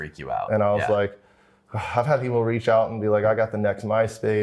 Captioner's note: sighs